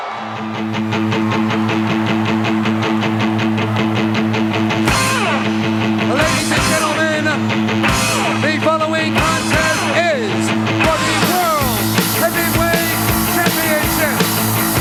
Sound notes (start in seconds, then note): 0.1 upbeat rock music; 3.6 crowd cheering; 14.6 upbeat rock music continues